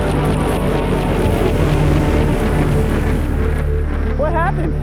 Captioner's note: motor dying